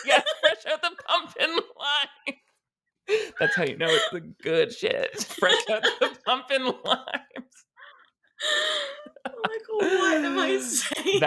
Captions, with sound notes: Yes, fresh out the pumping lines. That's how you know it's the good shit. Fresh out the pumping lines. (both laughing) - Like what am I saying?